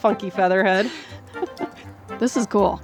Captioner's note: laughs